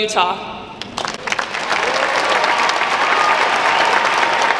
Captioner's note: crowd applauds